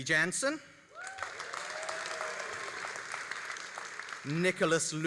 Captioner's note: all applauding and cheering